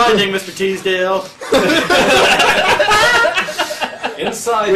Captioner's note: the others laugh